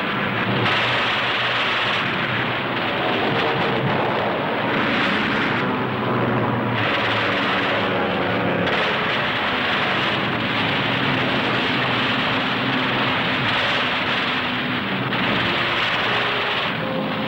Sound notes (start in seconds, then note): 0.2 machine guns thundering; 3.4 plane engines humming; 8.4 machine guns thundering